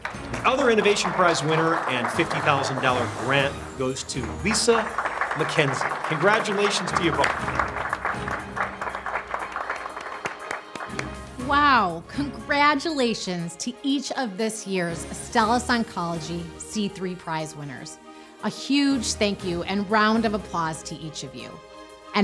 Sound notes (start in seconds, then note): 7.4 applauding